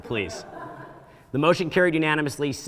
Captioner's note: audience laughing